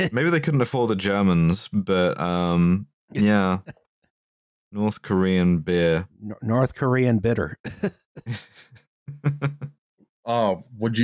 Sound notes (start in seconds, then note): 8.2 light laughter